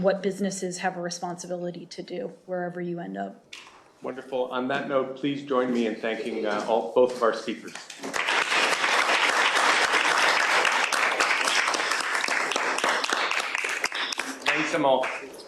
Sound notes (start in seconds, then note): 7.8 applause